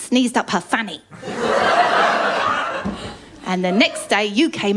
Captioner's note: laughter